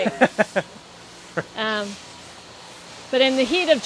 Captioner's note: laughing